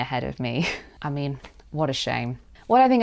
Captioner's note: sarcastically